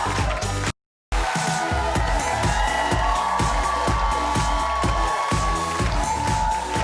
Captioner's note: audience cheers; upbeat music